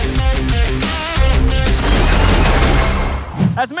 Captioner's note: gunshots